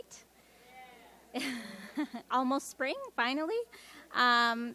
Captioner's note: laughs